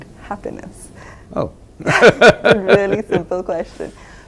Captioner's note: laughs